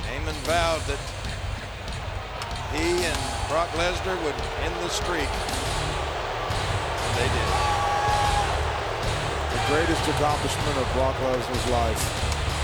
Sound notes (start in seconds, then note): 8.1 crowd booing